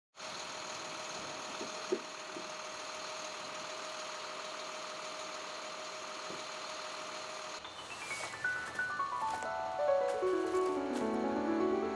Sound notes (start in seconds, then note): 0.8 engine running; 8.2 bright music